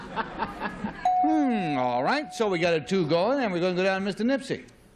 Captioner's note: laughs